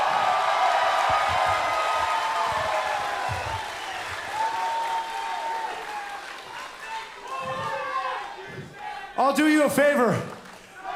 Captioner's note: crowd cheering